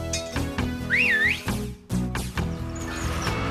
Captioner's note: whistles